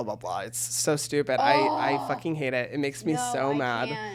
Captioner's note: groans